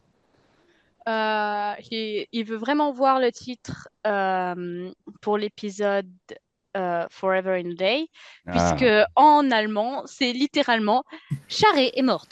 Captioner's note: translating from French